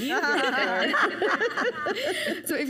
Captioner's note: panelists laugh